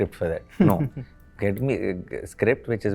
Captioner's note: laughs